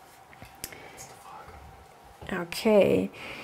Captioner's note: whispers